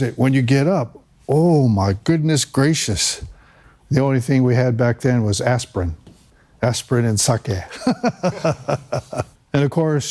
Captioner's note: laughter